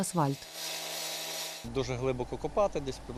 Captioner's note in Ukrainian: Звуки зрізання асфальту